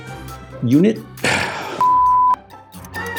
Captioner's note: sigh